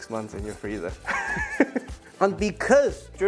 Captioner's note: laughs